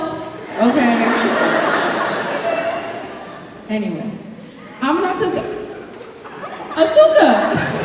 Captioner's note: audience laughing